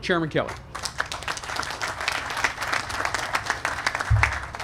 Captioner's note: applause